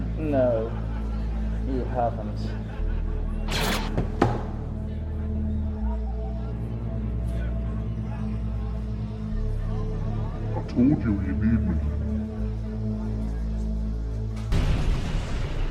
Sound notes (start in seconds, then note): 3.5 blaster fires